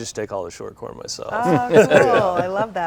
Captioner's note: all laughs